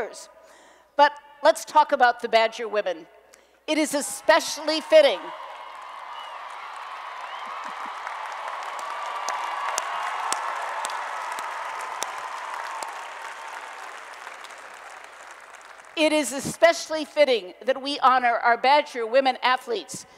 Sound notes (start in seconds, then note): 5.0 applause and Cheering